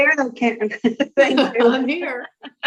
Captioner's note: laughs